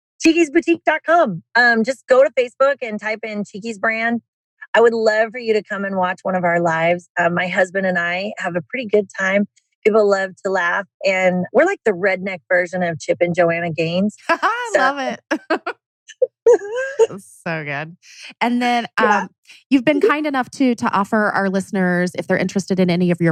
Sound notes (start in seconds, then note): 18.8 laughs